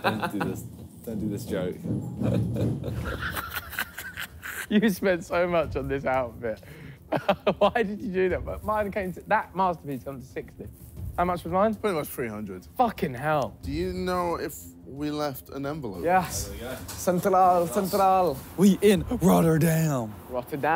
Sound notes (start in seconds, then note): 2.1 laughing